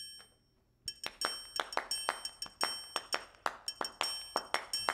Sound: clap-clap, clap, clap-clap; clap-clap, clap, clap-clap recorded and playing on a loop

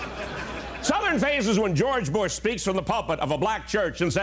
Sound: laughter

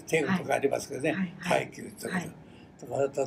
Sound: foreign language

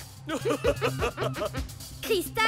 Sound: both laugh

